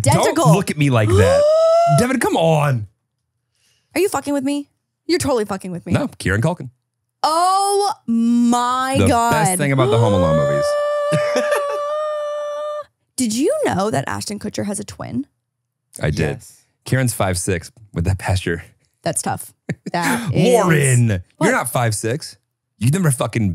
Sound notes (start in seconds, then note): 12.1 laughs; 22.9 laughs